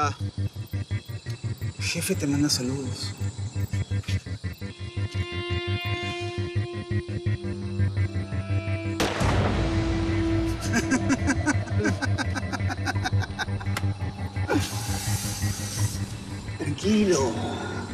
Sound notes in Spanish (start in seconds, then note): 9.0 detonación de disparo; 13.4 risas